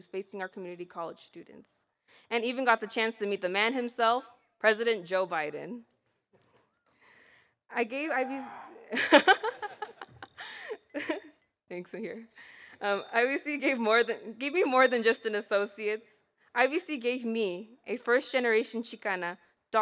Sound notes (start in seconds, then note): 8.8 laughs